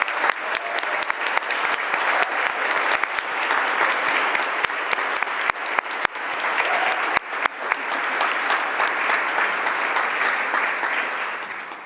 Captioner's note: applause